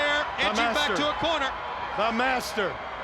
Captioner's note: crowd cheering